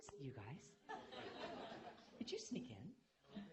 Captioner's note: laughter